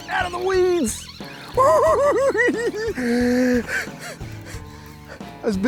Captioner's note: giggling